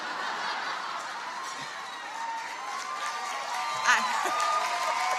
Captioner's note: audience laughs and applauds